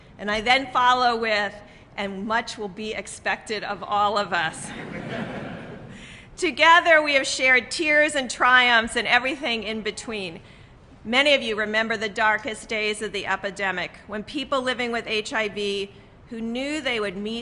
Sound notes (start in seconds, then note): 4.6 laughter